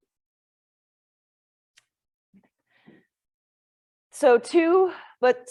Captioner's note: silence